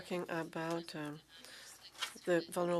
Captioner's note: speaking French